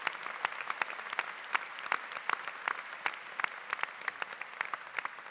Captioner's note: applause